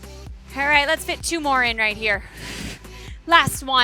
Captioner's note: exhales